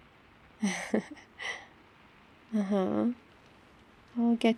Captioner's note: laughs